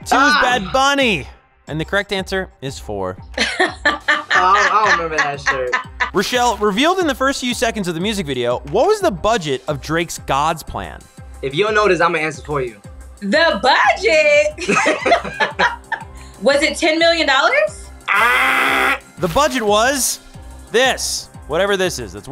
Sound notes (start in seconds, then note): 14.6 both laughing; 18.2 buzzer